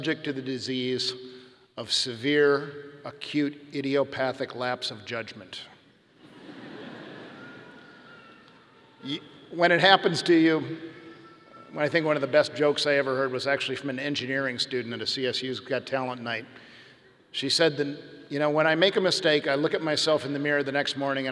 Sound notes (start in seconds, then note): 6.2 audience laughing